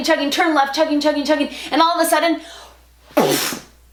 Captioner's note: boom